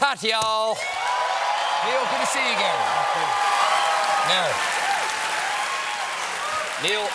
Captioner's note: cheers and applause